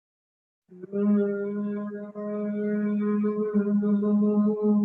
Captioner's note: humming